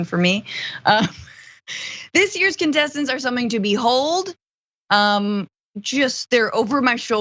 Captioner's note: laugh